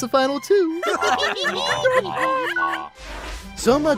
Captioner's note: laughing